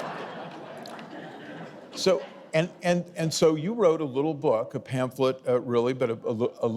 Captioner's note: audience laughing